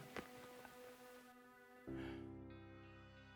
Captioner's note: chuckling